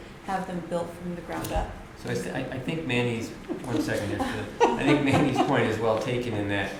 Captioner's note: laughter